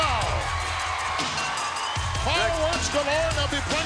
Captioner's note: audience cheering